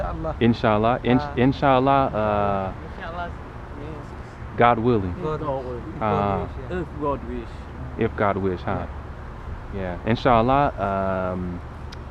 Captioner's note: somali